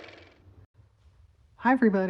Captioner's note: car motor